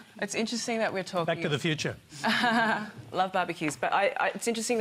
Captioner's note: laughs